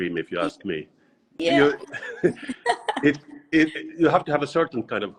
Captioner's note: both laugh